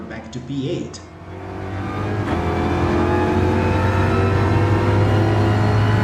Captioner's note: engines revving, cars noises, rain